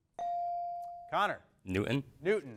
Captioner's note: bell dings